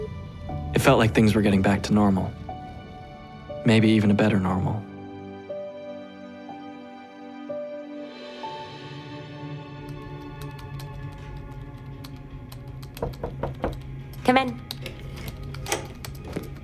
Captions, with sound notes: it felt like things were getting back to normal. Maybe even a better normal. [door knock] Come in.